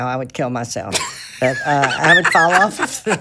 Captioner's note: laughs